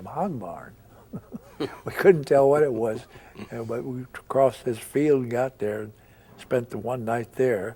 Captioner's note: both chuckle